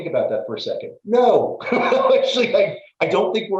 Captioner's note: laugh